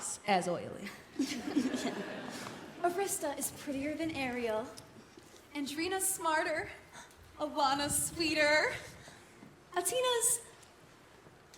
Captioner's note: laughter